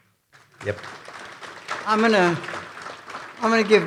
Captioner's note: audience applauding